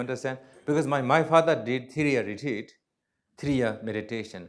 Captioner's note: non-english